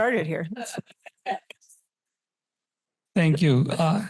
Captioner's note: laughter